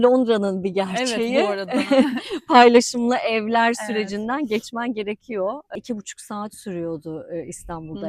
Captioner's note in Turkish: kahkaha